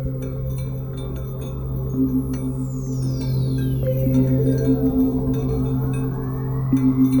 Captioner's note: mesmerizing music; voice fades